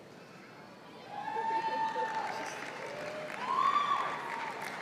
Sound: cheering

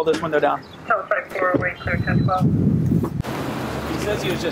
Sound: radio chatter

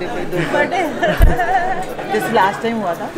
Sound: laughs

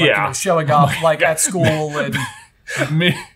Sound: laughing

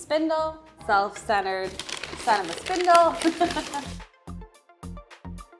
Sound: chuckles; upbeat music

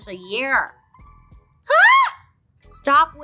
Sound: squeals

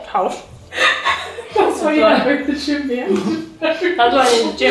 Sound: talking and laughing

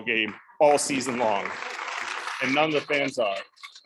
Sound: audience clapping

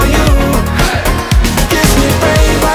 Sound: crowd

